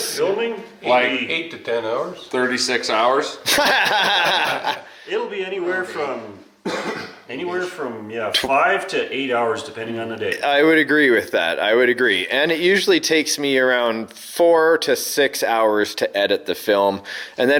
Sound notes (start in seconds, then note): 3.4 laughing